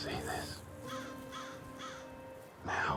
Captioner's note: bird cawing